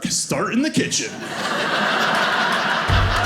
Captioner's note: audience laughing